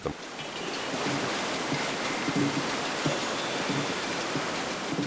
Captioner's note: flowing water